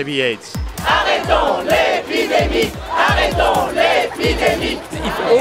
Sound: chanting

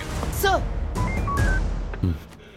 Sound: wireless device beeps

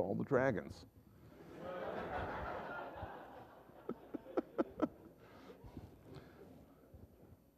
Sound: laughter

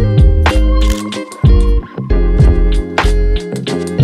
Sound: camera shutter clicks

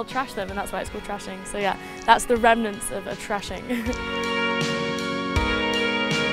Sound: laughs

